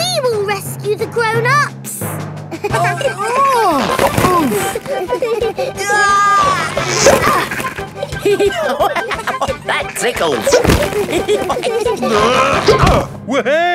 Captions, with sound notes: We will rescue the grown-ups! -(GIGGLING) -(GRUNTING) -(GIGGLING) -Aah! (LAUGHING) That tickles! (ALL GIGGLING) (GRUNTING)